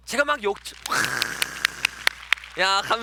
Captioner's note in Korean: 박수 소리